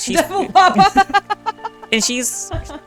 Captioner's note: laughter